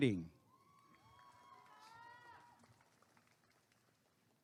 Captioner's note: applause and cheering